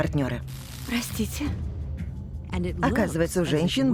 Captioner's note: static buzzes